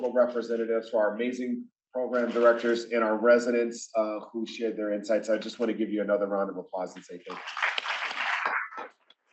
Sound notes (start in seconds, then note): 7.2 applause